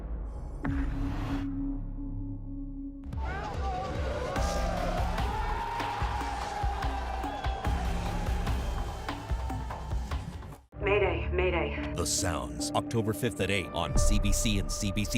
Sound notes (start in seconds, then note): 6.9 cheering